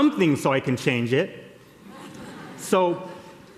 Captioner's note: laughter